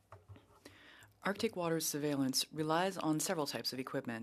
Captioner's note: speaking French